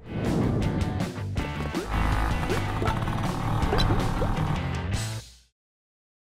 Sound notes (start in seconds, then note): 0.5 energetic rock music; 1.6 motorcycle vrooming